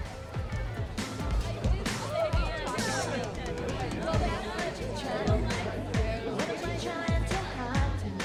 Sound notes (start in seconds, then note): 0.0 groovy music; 0.0 people chattering